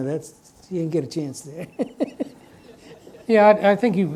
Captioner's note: chuckles